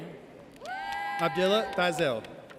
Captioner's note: audience cheers